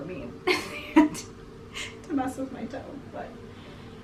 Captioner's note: laughing